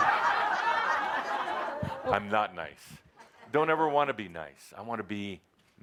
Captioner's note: laughter